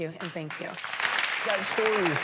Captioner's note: applause